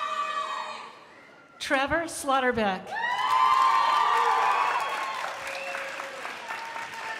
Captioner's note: crowd applauding